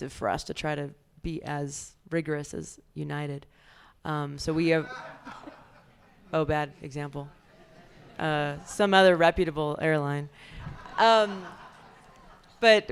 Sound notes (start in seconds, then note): 4.5 audience laughs